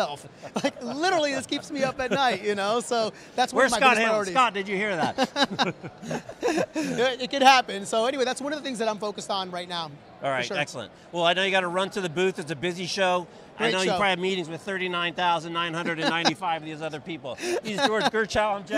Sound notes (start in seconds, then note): 0.4 both chuckle; 4.9 both laugh; 17.4 laughs